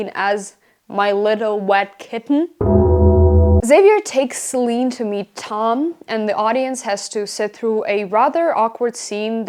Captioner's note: boom